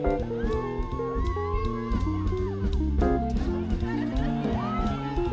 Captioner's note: students cheering and laughing